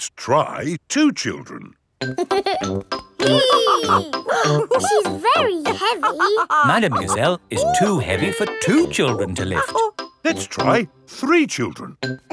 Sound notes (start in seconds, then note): 3.2 giggles; 3.2 madam gazelle laughing; 3.2 both straining